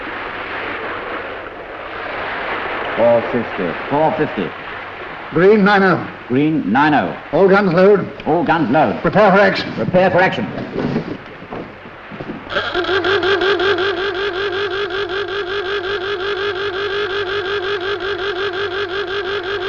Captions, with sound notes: - 450. - 450. - Green 90. - Green 90. - All guns load. - All guns load. - Prepare for action. - Prepare for action. (Alarm blares)